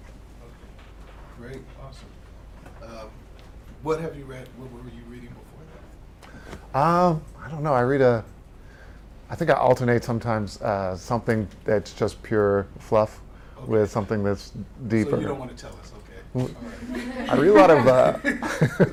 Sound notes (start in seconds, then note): 16.6 audience laugh